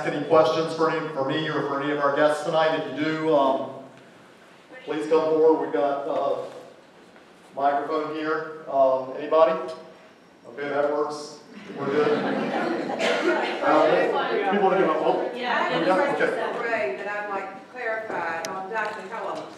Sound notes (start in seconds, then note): 11.6 laughter